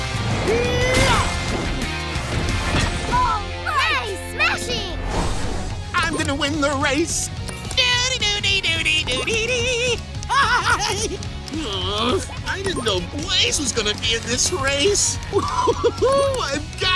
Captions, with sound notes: Eee ya! - Alright! - Nice smashing! I'm gonna win the race. [humming] [laughing] Ugh. I didn't know Blaze was gonna be in this race. [laughing] I've got it.